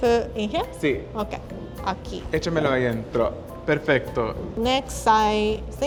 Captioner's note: speaking Spanish